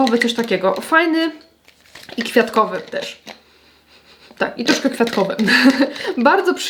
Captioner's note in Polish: śmiech